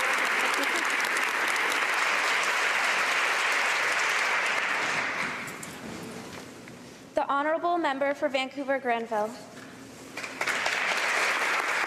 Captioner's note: applause